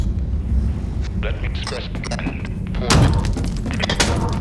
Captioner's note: Я твой труба шатал сука... голос искажается